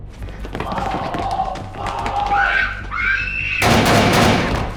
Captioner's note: screams; gunshots